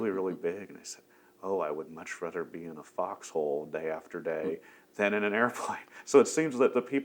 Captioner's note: laughs